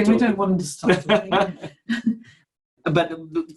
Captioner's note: laughs